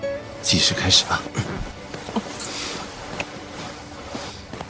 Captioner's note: smooches